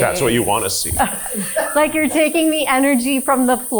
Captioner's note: crew members chuckling